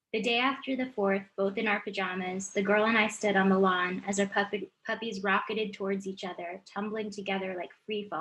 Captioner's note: none